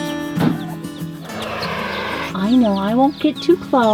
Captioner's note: turkey hisses